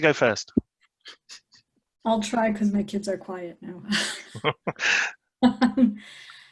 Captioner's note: laughs